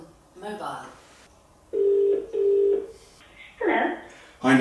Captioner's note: voice on phone call: hello